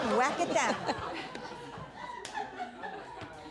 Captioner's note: audience laughing